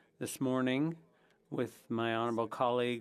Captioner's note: speaking French